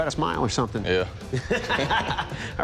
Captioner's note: laughter